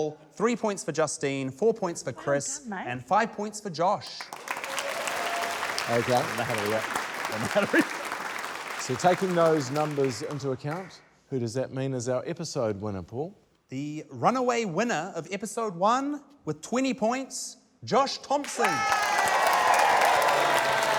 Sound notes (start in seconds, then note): 4.2 cheering, applause; 7.2 laughs; 18.4 cheering, applause